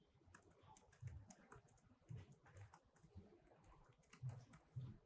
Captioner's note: keyboard clicking